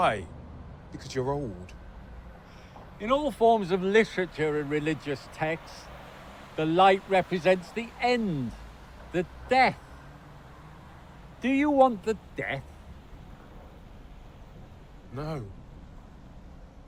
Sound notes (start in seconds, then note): none